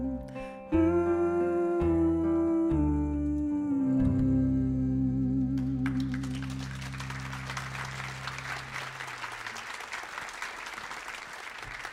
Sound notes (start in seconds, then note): 5.8 audience applauding